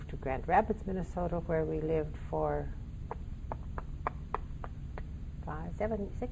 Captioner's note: clicking her tongue